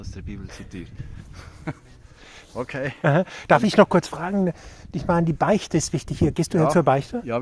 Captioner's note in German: gelächter